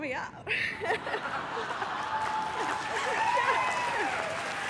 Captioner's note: laughter and applause